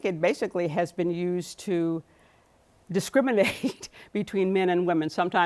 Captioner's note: chuckles